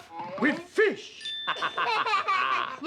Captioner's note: laughing